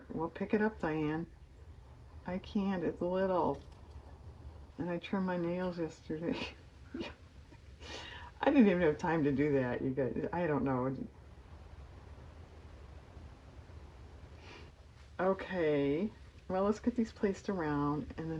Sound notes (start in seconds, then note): 8.9 laughs